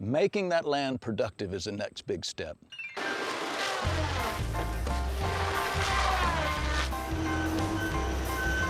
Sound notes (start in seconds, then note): 3.1 saw whirring; 5.4 bright music